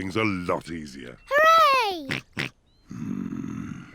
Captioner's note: snorts